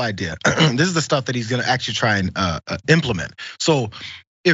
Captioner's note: cough